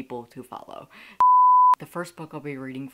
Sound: beep

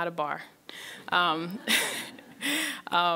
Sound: laughs; audience laughs

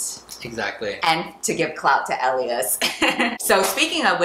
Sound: laughs

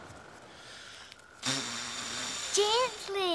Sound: blowing

